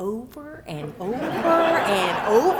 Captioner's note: laughter